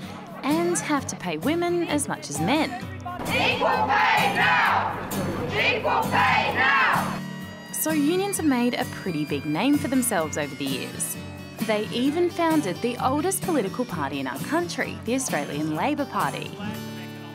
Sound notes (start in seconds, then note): 3.1 protesters Chant